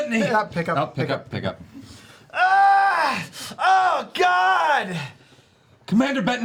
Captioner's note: yells in pain